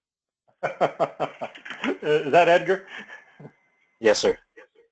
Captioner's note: laugh